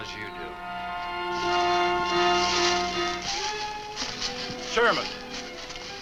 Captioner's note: leaves rustle